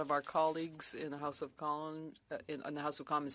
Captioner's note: speaking French